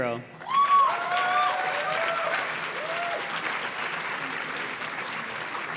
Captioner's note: audience cheers and claps